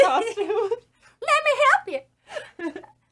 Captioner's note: exaggeratedly goofy voice